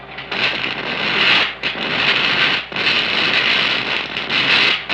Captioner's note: static crackling